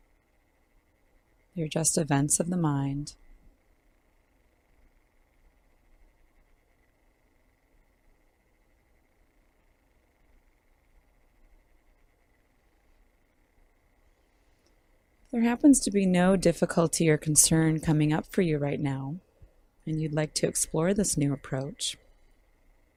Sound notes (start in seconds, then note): 7.2 silence